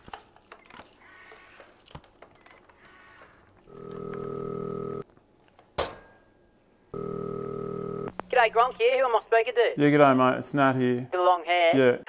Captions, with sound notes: [Dialling] [Ring] [Ring] G'day, Gronk here, who am I speaking to? Yeah, g'day mate, it's Nat here. With the long hair? Yeah.